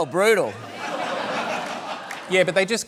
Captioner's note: laughter